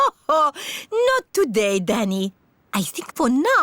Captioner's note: laughs